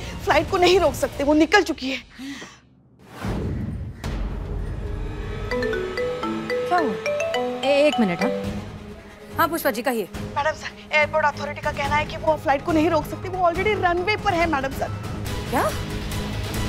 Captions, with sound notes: They cannot stop the flight. It's on its way. [phone ringing] Just a minute. Yes, Pushpa. Maddam sir, the airport authority says they cannot stop the flight. It's already on the runway, maddam sir. What?